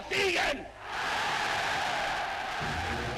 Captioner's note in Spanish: Vítores